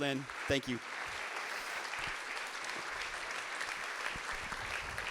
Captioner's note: audience applauding